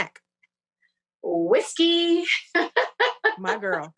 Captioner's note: laughs